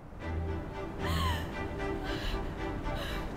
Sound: panting

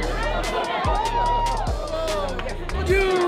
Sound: crowd talking

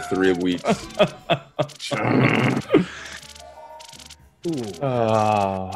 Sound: laugh

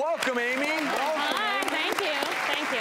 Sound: audience applause

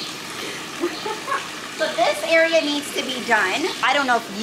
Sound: laughs

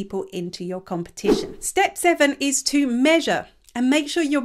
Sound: image whooshes

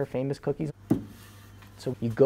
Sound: rolling dough

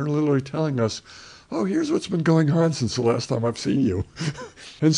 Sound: laughs

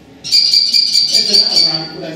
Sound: kestrel Call

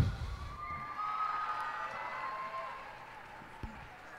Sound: cheers and applause

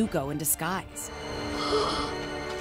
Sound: gasping

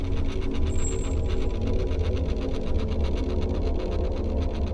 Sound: metal squeaking

